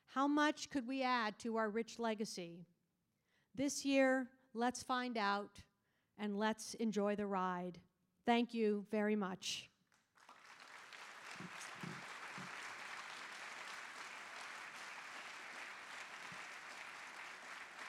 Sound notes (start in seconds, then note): 10.1 audience applauding